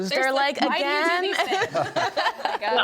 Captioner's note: group laughs